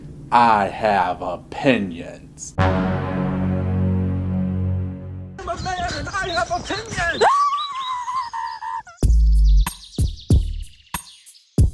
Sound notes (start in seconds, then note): 2.6 more dramatic music; 6.7 screaming